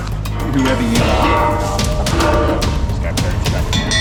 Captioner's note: gate locks opening